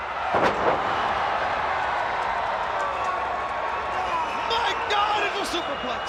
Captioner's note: crowd cheering